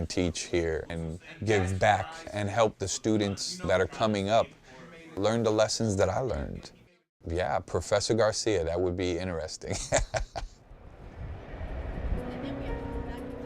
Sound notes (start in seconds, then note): 9.7 laugh